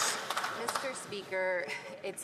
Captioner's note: some Applause